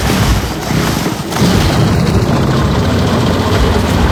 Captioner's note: engine starts